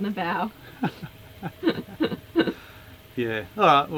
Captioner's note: laughing